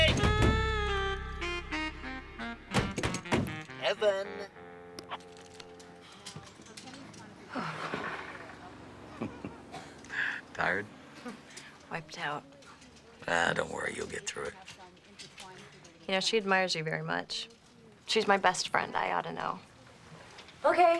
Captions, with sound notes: Hey! Evan? (chuckles) Tired? Wiped out. Ah, don't worry. You'll get through it. You know, she admires you very much. She's my best friend, I ought to know.